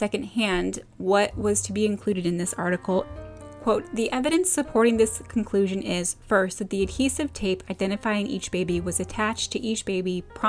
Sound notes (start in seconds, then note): none